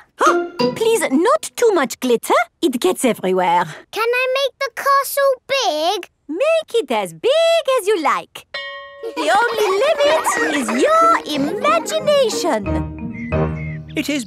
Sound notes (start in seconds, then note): 8.5 school bell rings; 9.0 children laughing